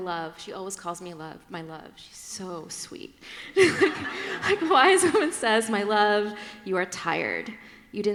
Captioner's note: laughter